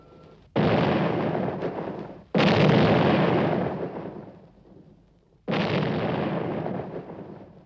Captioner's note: explosions